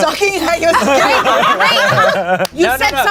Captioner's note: everyone laughs